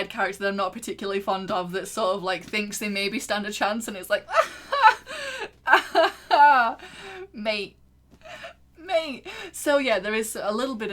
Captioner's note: laughs